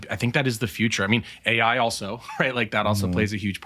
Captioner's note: chuckles